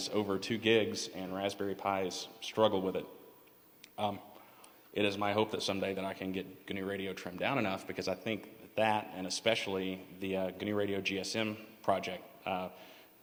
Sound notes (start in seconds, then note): none